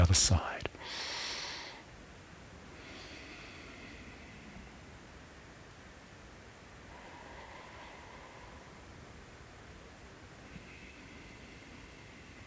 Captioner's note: inhales and exhales